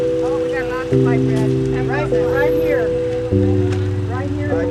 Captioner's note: background chatter